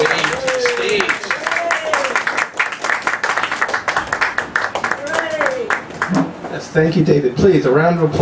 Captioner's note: clapping